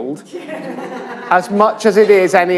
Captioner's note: laughter